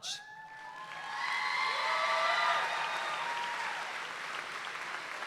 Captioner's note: audience applauds and cheers